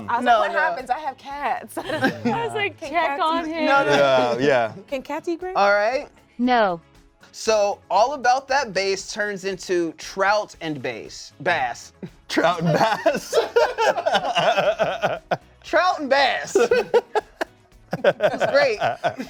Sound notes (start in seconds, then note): 7.0 voiceover; 12.3 laugh; 16.4 laughs